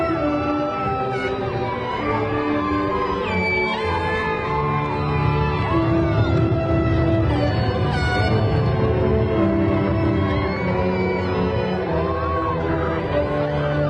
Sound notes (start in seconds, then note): 0.2 graduation music continues; 5.4 crowd cheering